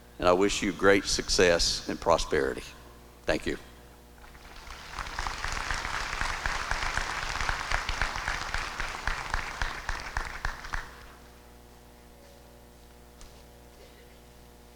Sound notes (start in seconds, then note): 4.2 applause